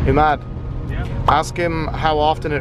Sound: pops

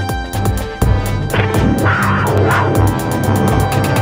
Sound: wildcat Roar

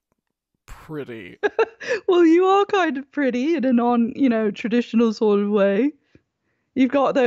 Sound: giggles

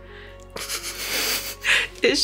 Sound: both laugh

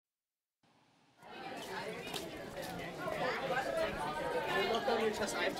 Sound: people chattering

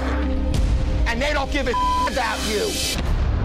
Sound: beep

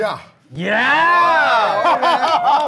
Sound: in Thai; sound of cheering

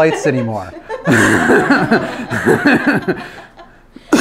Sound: everyone laughs

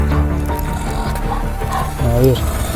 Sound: growling sound

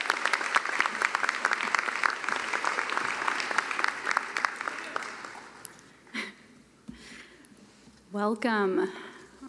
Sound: cheering and applause

